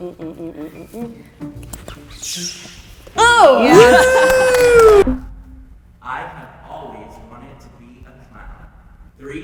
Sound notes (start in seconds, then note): 1.8 shoes screeching; 3.2 all cheering